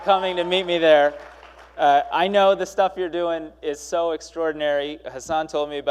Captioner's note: applause